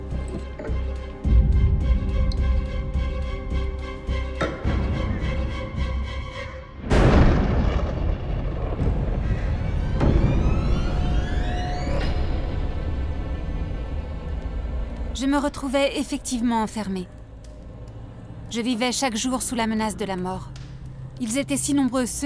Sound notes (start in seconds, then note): 0.1 dramatic music; 6.8 thunder crashes; 10.4 eerie music